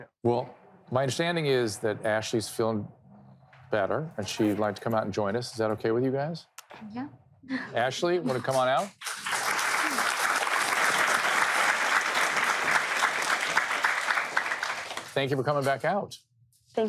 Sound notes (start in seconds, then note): 7.9 nervous laughter; 8.4 audience applauds